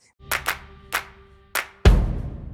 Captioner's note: hands clapping; drum thudding